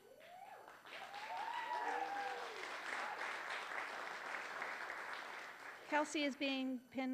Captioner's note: applause